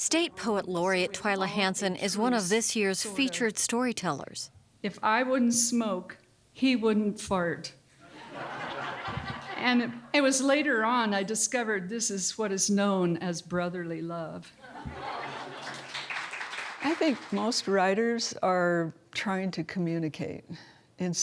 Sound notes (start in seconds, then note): 8.0 laughter; 14.6 laughter; 15.2 applause